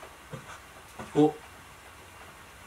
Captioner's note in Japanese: 足音